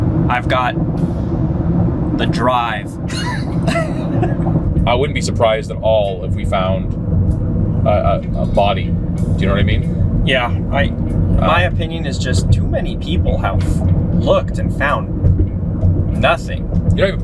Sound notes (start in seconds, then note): 3.0 both laughing